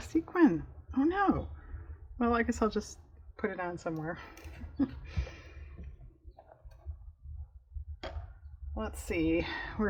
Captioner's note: laughs